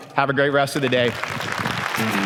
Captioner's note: applause